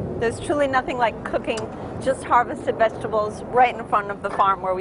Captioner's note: engines